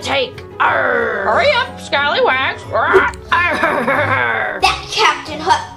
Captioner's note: squawking